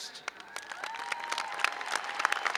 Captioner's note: applause